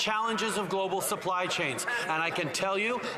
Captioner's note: none